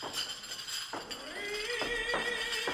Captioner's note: dishes rattling; man singing